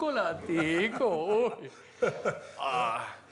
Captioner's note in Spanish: Risas